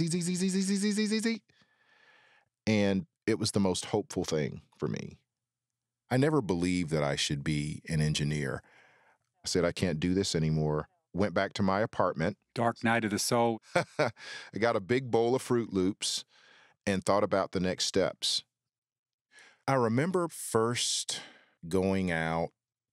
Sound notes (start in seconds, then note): 13.5 laughs